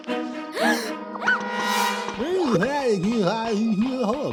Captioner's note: women gasp